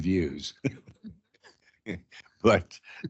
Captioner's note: laughing